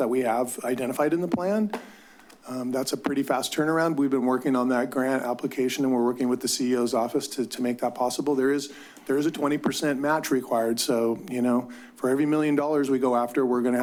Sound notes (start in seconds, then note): none